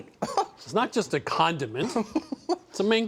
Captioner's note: laughs